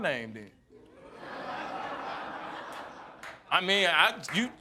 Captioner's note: audience laughing